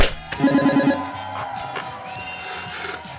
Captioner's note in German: Jubel